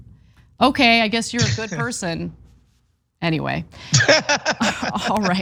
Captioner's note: laugh